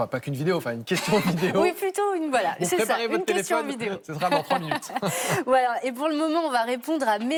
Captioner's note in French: rires